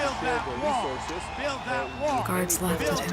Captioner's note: crowds shouting and news reporter speaking